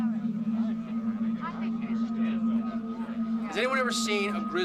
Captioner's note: crowd chattering